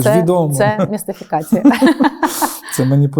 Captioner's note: both laugh